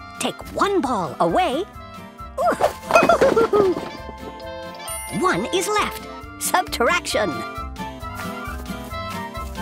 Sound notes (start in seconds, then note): 3.1 laughs